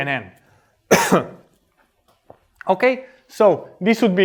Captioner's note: coughs